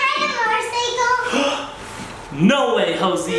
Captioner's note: gasps